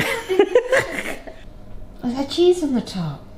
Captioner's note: they laugh